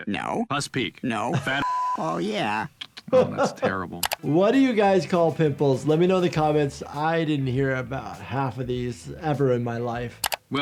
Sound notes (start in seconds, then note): 1.6 beep